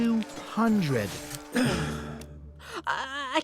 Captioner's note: groans